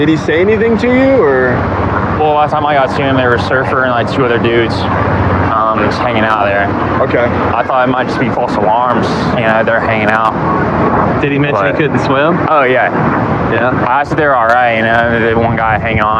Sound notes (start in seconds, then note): none